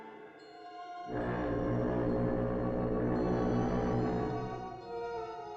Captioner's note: foghorn Blows